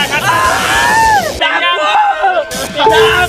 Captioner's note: screams